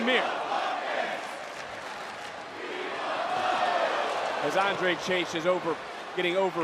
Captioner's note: crowd chants